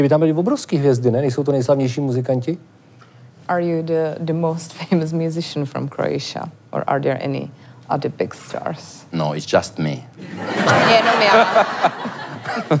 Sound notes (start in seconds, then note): 9.9 laugh